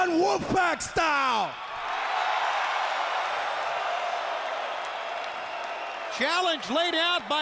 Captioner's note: applause